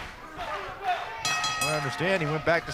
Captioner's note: bell ringing